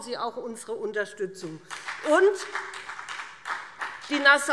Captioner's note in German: Beifall BÜNDNIS 90/DIE GRÜNEN und CDU